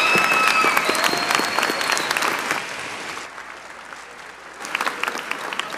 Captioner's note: applause